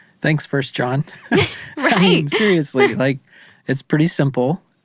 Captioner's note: chuckles